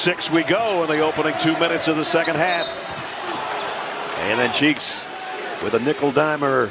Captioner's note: whistle